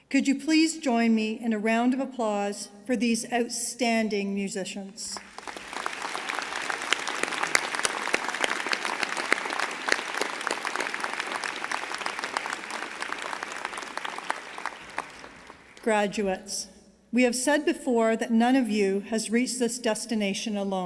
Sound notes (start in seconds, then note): 5.2 applause